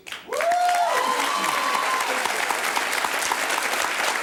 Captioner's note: audience applauds